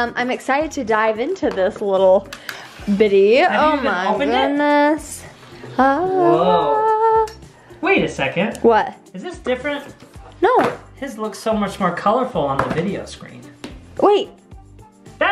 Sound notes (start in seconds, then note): 6.0 humming